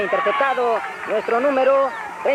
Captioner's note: crowd cheering